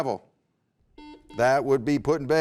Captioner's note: beeping